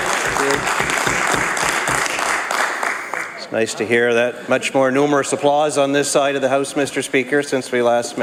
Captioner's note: some Applause